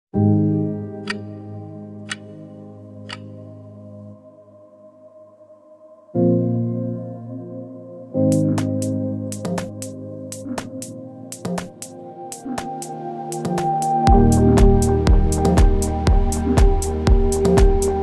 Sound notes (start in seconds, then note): 0.1 gentle music; 1.0 clock ticking; 8.3 upbeat gentle music